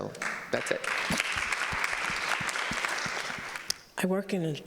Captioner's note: audience applauding